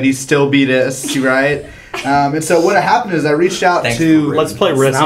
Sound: laugh

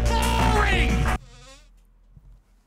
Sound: mic arm squeaking

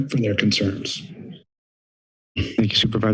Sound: silence

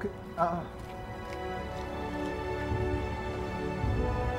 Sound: feet pattering

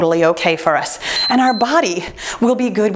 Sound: timer beeps

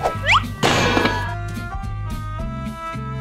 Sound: metal lid slamming down; mellow music

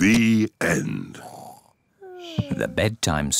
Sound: both snore

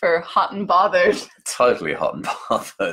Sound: laughs

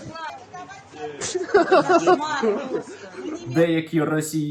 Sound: laughter

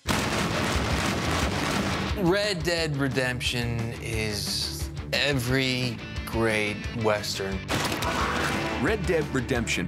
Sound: gunshots

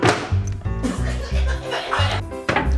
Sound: laughter

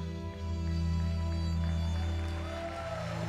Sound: applause

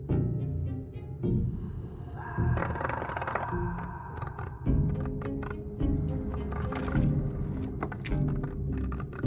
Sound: creepy whispers; wood scratches; eerie music

